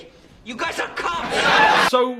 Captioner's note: laugh track